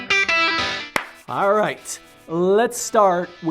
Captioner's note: claps